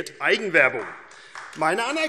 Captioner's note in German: Beifall AfD